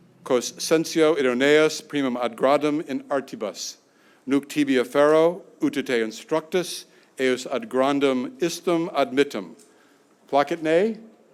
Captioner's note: speaking latin